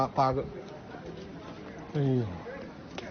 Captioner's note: sigh